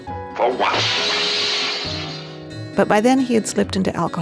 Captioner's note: glass shattering